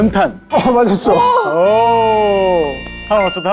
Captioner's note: ding-ding